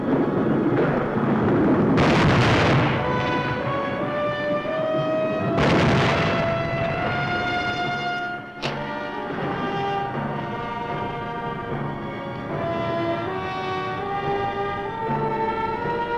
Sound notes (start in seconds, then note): 1.9 thunder roaring; 3.9 suspenseful music